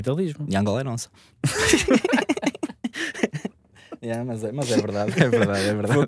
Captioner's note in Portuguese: risos